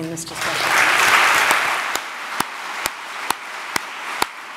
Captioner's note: audience applauds